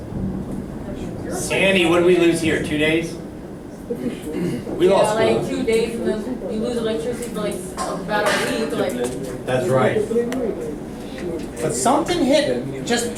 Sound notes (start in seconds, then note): 5.0 voiceover